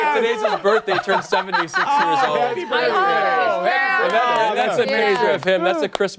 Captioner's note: laughter